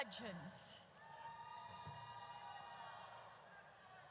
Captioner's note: audience cheers